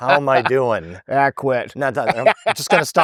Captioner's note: laughing